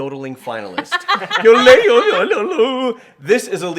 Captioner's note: laughing